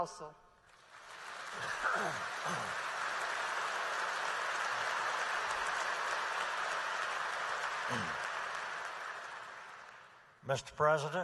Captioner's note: applause